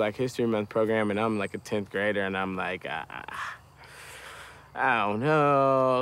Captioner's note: groans